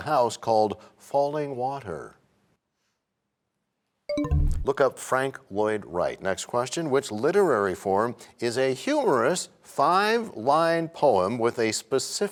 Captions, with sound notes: architecture, including the house called Fallingwater? [bell chimes, time expires] Look up Frank Lloyd Wright. Next question. Which literary form is a humorous five-line